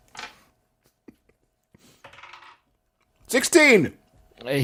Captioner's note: laughs; dice rolling